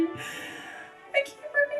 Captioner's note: gasps